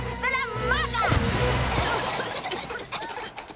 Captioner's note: coughing